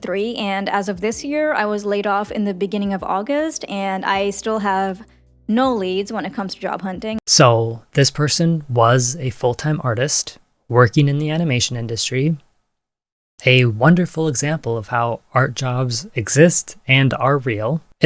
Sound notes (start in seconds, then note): none